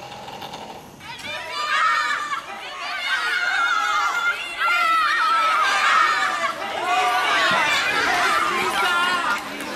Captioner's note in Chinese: 尖叫聲